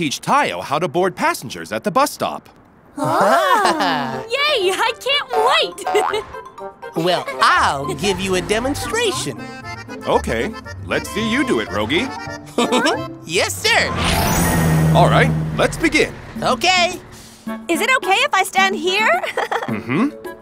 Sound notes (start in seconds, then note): 3.0 giggles; 12.5 giggles; 19.2 giggles